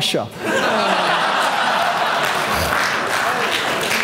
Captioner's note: audience laughing